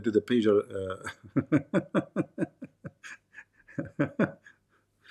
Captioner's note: Ketawa